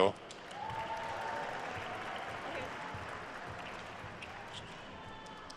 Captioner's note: attendees cheering and applauding